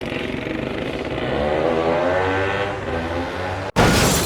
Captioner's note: 2-Stroke sounds